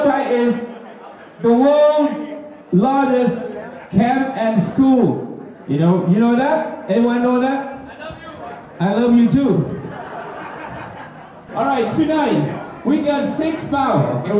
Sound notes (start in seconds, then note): 9.6 laughter